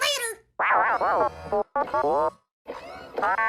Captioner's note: R5-40: rude beeps